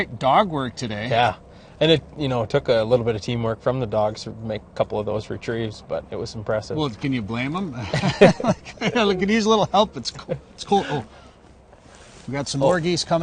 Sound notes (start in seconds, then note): 7.7 laugh